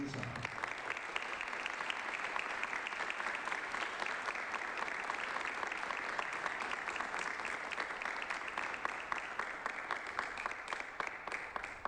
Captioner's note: applause